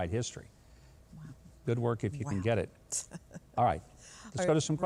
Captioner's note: laughing